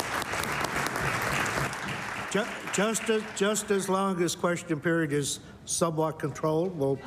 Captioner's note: applause